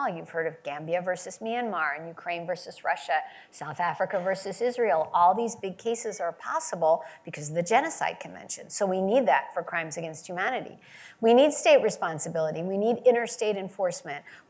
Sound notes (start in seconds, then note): none